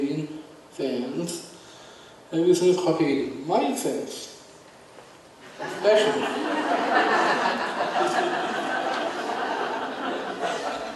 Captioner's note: audience laughs